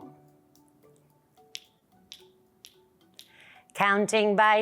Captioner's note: fingers clicking